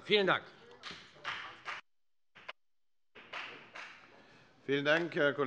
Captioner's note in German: Beifall bei der FDP